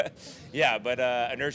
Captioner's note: laughing